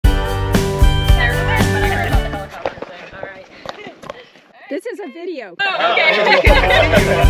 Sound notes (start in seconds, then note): 1.2 group chatter; 5.6 laughing